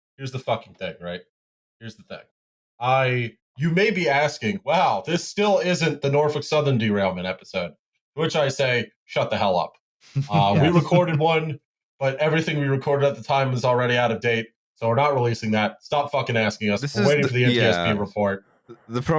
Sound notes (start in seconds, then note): 10.2 laughs